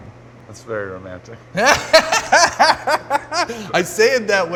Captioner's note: laughter